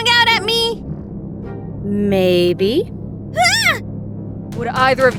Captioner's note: yelp of terror